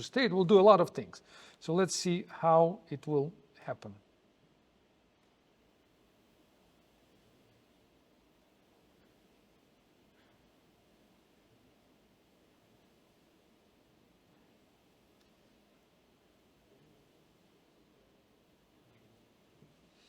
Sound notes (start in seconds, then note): 3.8 pause